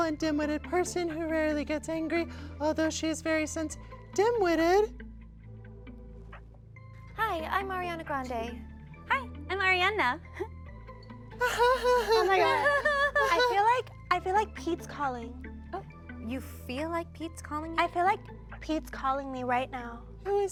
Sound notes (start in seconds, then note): 11.4 Arianas giggle